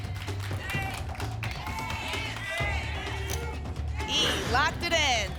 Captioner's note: audience shouting letters